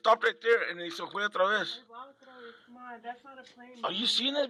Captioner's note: speaking in foreign language